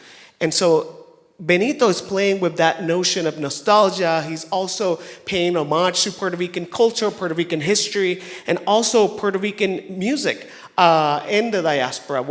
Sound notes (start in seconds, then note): none